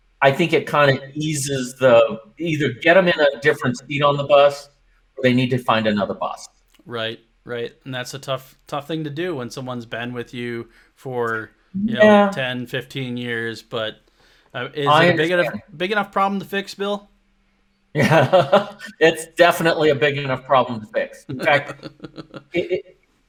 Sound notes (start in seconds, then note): 18.0 laughs; 21.2 laughs